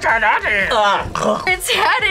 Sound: gags

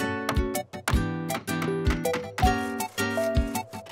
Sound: hammers tapping; saw scraping

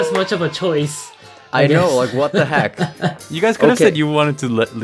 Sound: giggles

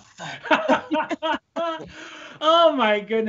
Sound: both laughing

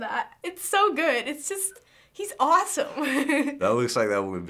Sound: giggles

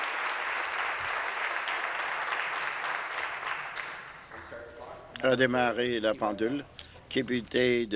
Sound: applause

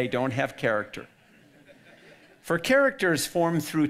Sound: audience laughing

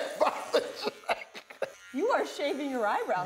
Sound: laughs

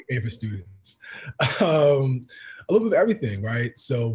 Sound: laugh

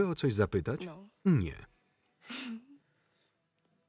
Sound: chuckles

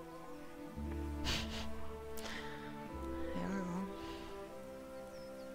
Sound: laughing

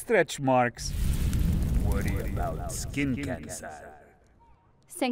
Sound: Demonic voice; speaks foreign language

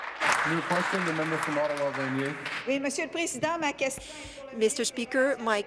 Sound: applause

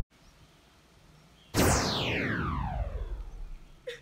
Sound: disappearing sound effect

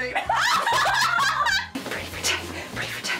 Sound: all laugh

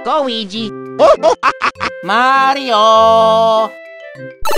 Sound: laughs

